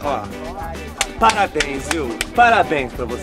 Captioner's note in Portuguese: palmas